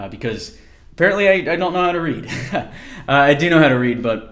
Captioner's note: laugh